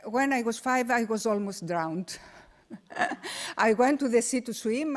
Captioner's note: laughs